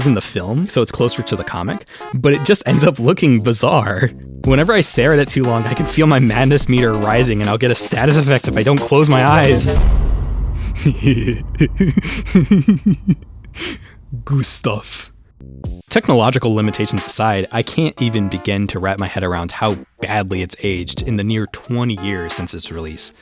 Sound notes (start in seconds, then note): 10.5 ominous chuckling